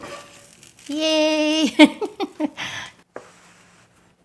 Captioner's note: laughs